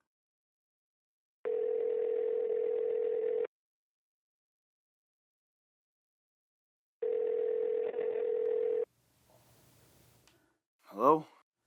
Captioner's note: outgoing call rings